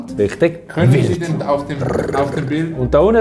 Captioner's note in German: Wilde Wolfsgeräusche